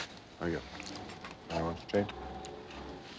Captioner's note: indistinct chatter